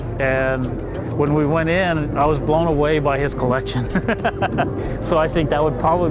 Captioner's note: laughing